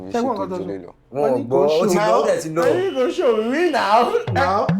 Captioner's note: buzzer sounds